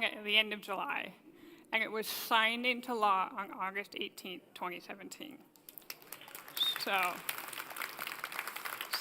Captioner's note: applause